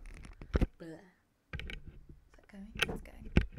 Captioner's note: microphone clicks